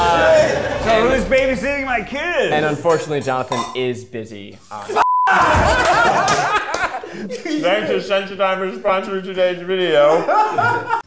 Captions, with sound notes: - So who's babysitting my kids? - And unfortunately Jonathan is busy. - (beep) (all laugh) - Thanks to Sensodyne for sponsoring today's video.